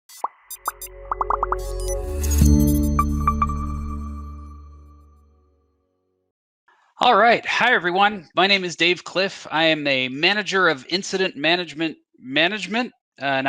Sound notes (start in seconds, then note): 0.4 soft electronic tones; 1.0 bubbles popping